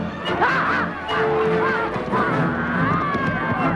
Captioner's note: Hundra shouting